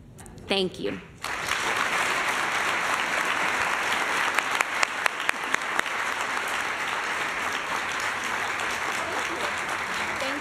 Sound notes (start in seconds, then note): 1.2 applause